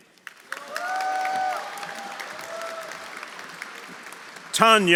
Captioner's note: audience applauding; audience cheering